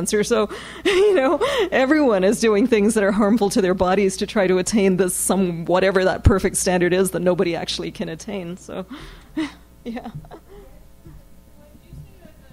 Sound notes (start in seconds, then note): 9.8 laughs